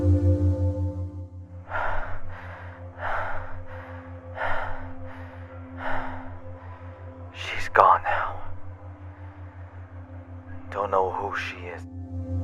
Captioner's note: panting